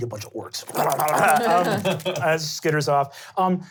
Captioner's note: wet skittering